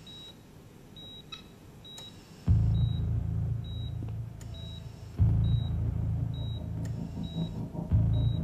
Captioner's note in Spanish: Sonido de telemetría